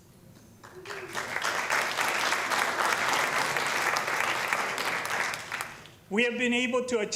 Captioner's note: applause